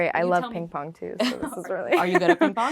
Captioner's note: laughing